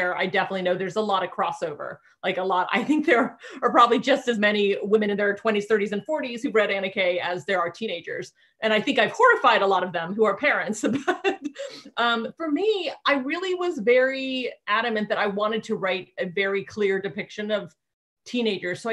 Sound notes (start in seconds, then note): 11.4 laughing